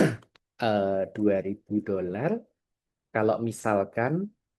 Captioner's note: berdehem